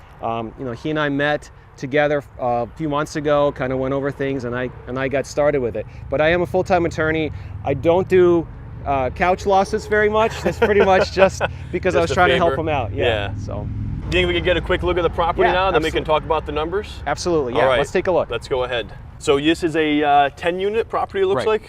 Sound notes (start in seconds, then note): 10.0 laughs